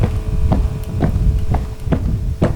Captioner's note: footsteps